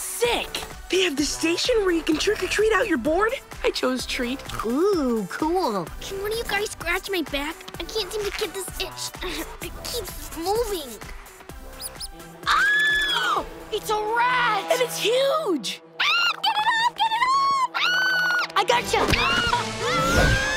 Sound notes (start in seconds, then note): 12.4 screaming; 17.2 screaming